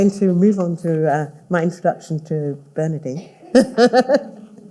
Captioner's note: laughs